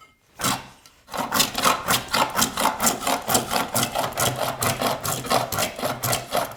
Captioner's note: blade on wood continues rhythmic scraping